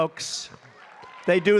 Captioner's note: applause